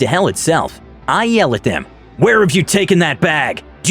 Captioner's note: yell